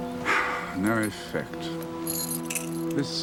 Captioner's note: sighs